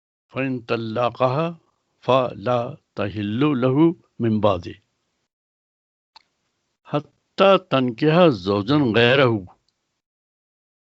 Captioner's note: recites arabic